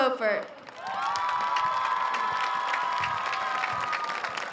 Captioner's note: audience cheers